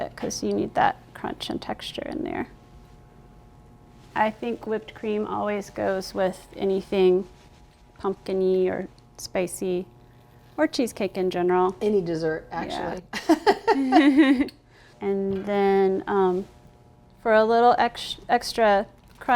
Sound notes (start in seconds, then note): 13.2 laughing